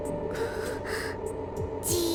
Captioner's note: anxious breath